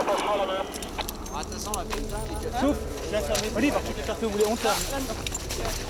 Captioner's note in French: Bruits de transport